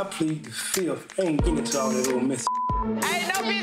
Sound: beep

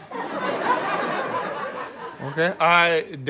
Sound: audience laughs

